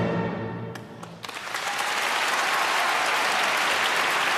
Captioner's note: applause